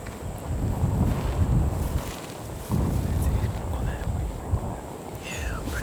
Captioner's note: whispering